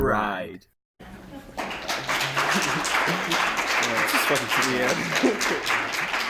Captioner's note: applause